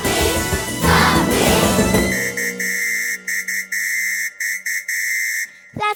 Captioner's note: police whistle sounds loudly